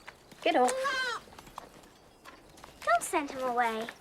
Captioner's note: goat bleating